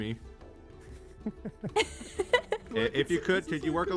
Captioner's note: laughs